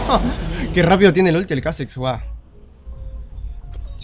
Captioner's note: laughs